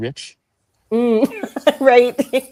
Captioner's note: laughs